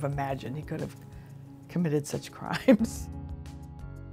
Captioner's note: laughs; suspenseful electronic music